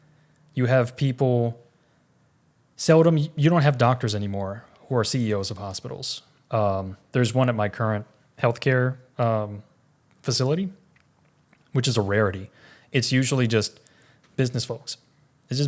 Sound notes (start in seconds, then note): none